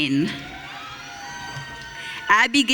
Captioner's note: audience cheering